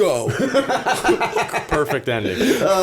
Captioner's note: laughter